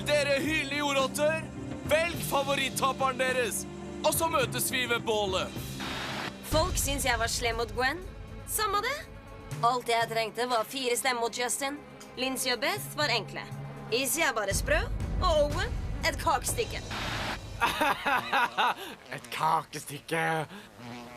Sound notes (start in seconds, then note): 17.6 laughs